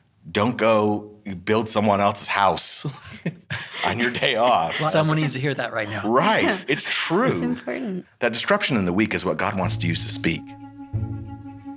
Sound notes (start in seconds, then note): 3.0 laughing; 11.5 mellow music